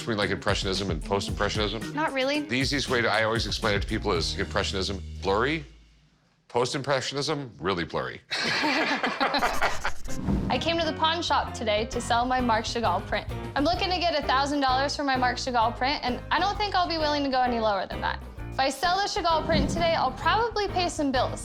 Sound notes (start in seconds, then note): 8.3 both laugh